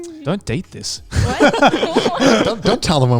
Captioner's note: men laughing